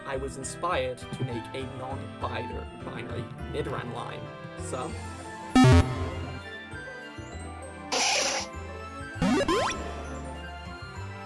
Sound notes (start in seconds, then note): 5.2 Pokédex Closes; 7.9 Nidoran Cry